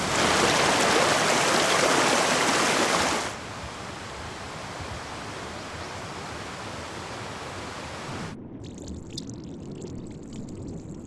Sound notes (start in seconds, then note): 0.0 splash/Plop!; 3.3 water Fall noises, or something